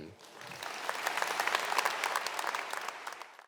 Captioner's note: audience applauding